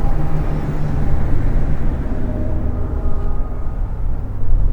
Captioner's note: atmospheric sounds